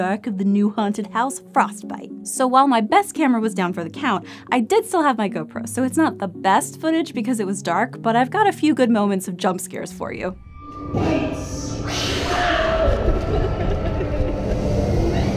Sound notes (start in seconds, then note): 10.9 growling